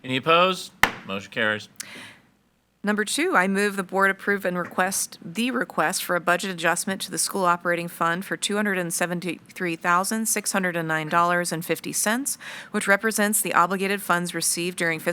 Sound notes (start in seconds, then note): 0.8 gavel bangs